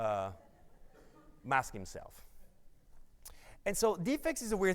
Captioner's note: audience laughs